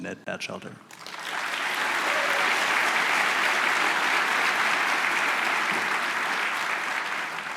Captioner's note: applause